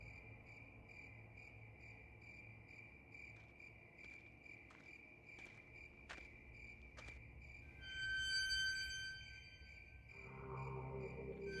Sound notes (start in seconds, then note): 8.0 gate screeching